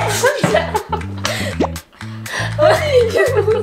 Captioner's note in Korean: 웃음; 뿅, 효과음; 웃음